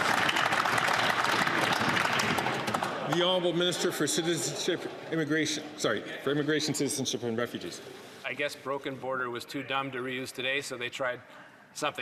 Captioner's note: some Applause